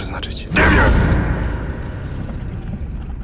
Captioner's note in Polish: warknięcie lwa